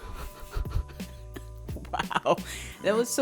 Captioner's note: both laughing